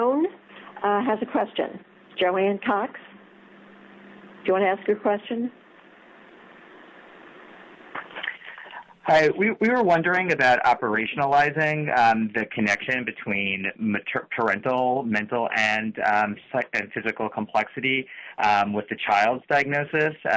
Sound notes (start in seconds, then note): 5.1 momentary silence